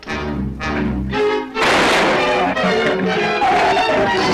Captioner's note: gun fires; shrew snarls